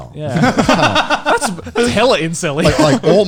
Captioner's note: laughing